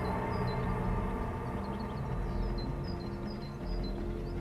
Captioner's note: birds chirping; soft tense upbeat music